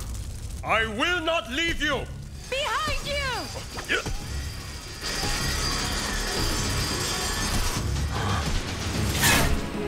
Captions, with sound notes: I will not leave you! Behind you! [screeching] [gasping]